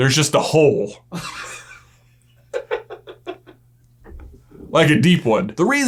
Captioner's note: laughing